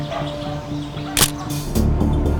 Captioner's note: camera clicking